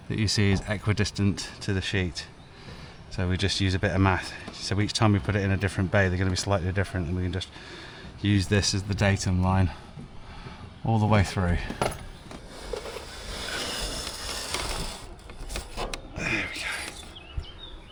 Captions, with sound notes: that you see is equidistant to the sheet. So we just use a bit of math. So each time we put it in a different bay, they're gonna be slightly different and we can just use this as the datum line all the way through. (drill whirring) There we go.